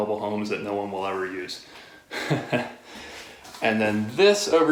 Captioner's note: laughing